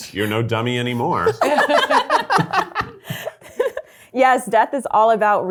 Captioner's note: all laughing